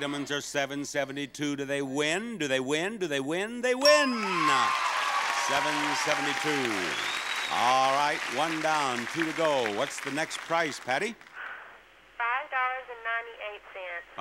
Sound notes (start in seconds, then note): 3.8 bell dinging; 4.5 audience applauding